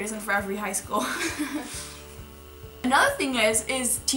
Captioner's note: laughing